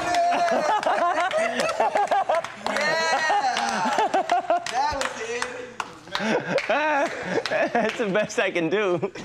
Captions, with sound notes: (chuckling) Yeah, that was it. - That's the best I can do.